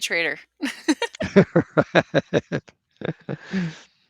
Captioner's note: laughter